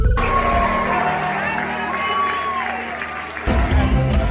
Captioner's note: crowd cheering